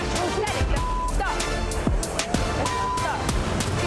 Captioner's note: beeps